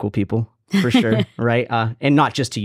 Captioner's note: laughs